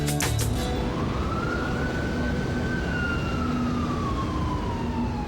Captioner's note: Sirenas sonando